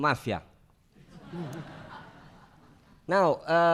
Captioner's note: laughing